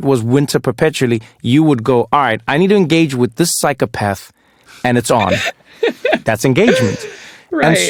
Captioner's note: laugh